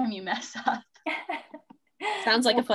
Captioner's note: laughing